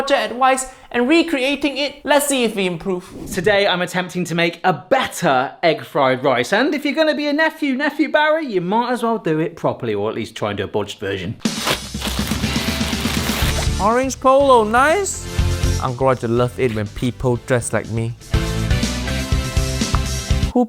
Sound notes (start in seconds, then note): 11.5 upbeat music; 11.5 plastic crinkling; 18.2 upbeat music